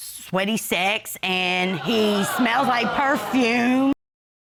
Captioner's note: audience exclaiming